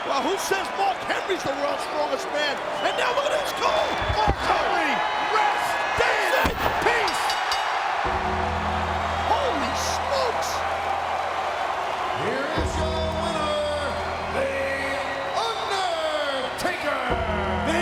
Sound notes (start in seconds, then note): 6.3 bell rings; 7.2 audience cheers; 8.0 ominous music